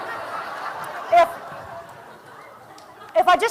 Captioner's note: laughter